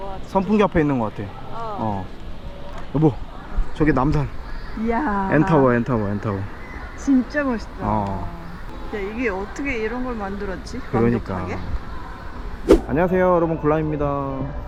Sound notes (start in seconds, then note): 4.8 exclamation